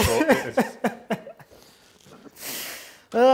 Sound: laughs

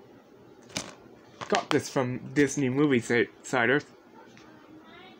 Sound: case popping

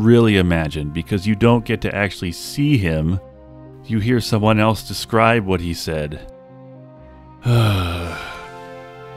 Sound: sigh

